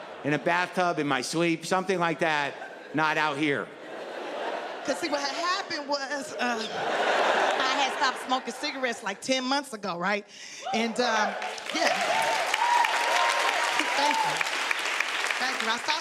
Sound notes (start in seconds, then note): 6.2 audience laughing; 10.8 audience cheering